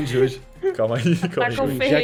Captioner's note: laughs